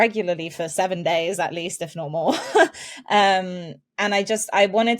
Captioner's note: chuckles